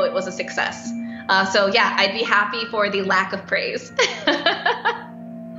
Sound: laughs

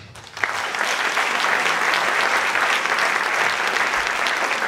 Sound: audience clapping

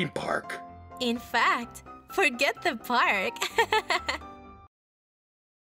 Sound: giggling

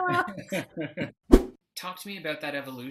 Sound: laughs; whoosh

